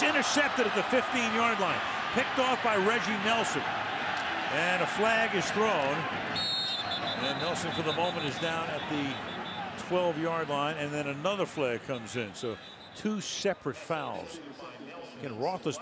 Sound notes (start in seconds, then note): 0.3 cheering; 6.3 whistle